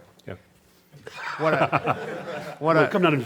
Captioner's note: laughter